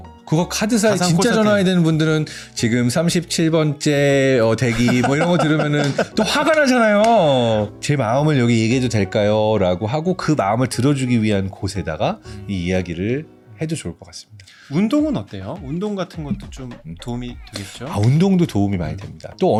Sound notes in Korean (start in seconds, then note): 4.6 웃음; 14.7 흥미로운 음악